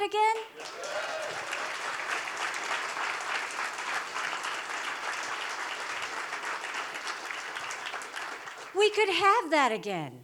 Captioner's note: applause